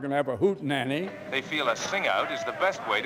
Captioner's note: radio Announcer